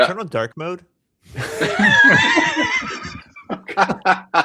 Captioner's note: laughter